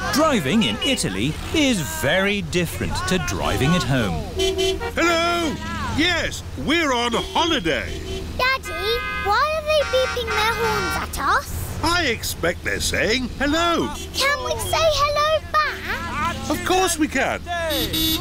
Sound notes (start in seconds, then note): 0.0 driver yells in italian; 0.0 horns honking; 5.3 horns honking